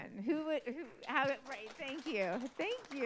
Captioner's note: applause